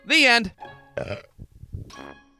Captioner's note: burps